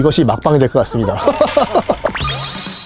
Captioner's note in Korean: 기괴한 웃음